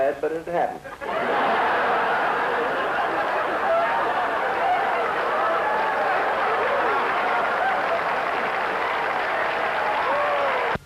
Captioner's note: laughter